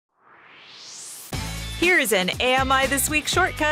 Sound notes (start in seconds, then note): 0.1 swoosh